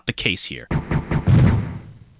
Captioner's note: weak pistol shots